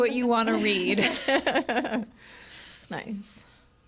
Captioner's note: laughs